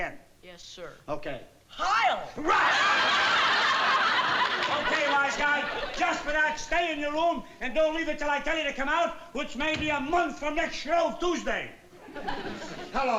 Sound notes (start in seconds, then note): 2.4 audience laughing